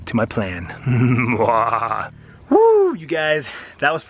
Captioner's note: sinister laughing